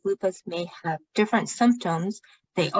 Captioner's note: speaking chinese